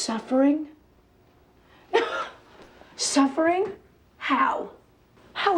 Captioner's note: laughs